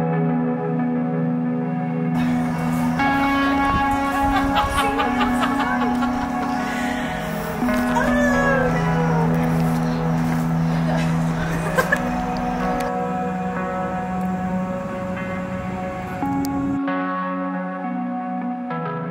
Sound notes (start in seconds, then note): 3.8 cackles; 10.7 laughs